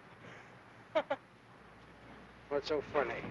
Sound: laughing

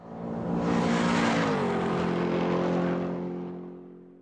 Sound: car enging racing

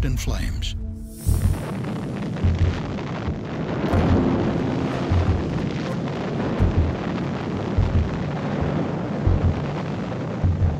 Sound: sound of explosion

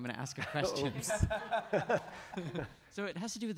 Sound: laughing

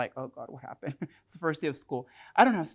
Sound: chuckles

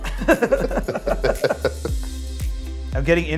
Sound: laughing

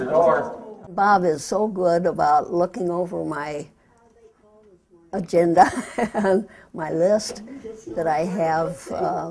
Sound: laughs

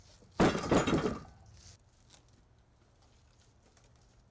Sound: loud bang

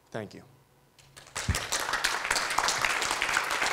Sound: applause

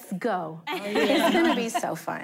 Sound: laughing

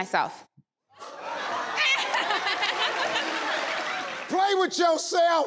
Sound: audience laughs

